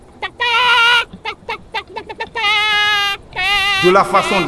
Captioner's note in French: le coq crie